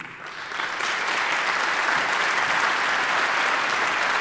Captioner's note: audience applauding